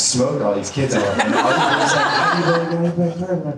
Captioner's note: audience laughter